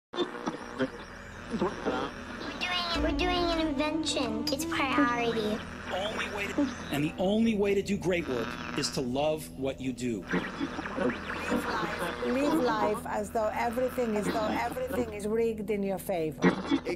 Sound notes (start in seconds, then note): 0.2 radio static and tuning